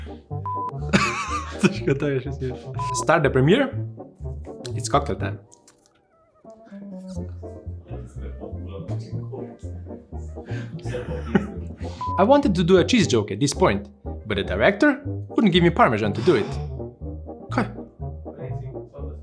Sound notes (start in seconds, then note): 16.2 not-yet-scripted sigh